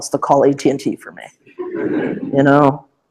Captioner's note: laughter